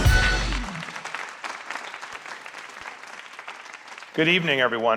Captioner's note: applause